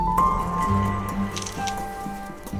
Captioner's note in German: Kameraklicken